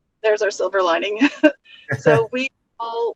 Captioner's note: both laugh